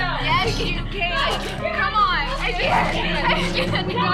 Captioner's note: sobbing, shouting